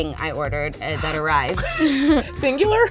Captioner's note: laughing